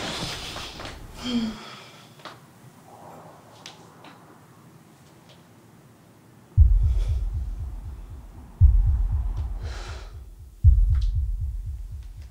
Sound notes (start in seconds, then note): 0.1 deep breathing